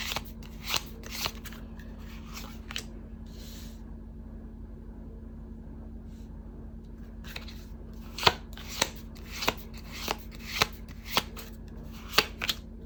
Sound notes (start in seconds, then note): 6.1 drawing cards